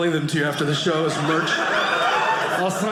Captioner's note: audience laughing